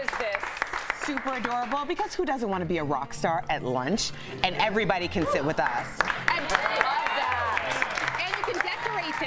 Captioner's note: applause